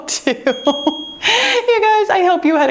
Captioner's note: bell dings